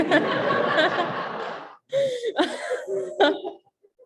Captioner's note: laughing